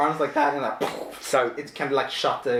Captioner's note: makes explosion noise